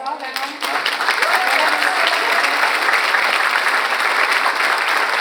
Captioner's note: audience applauds